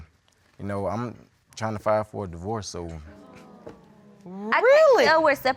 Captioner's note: audience exclaiming